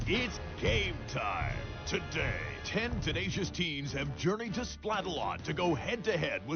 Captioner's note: none